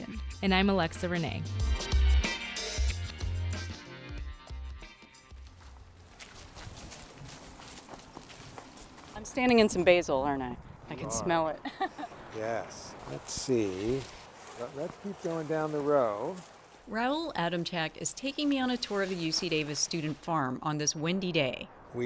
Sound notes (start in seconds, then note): 2.2 theme music fades; 5.3 rustling and walking outside; 11.6 laughs; 15.2 chatter fades